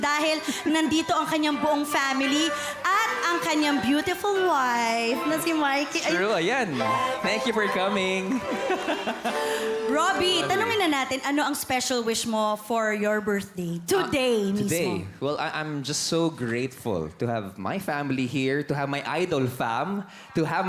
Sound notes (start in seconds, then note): 8.2 chuckles